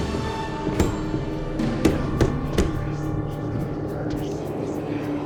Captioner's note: intense music; door banging; voices whispering